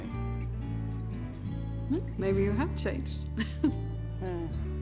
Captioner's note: chuckles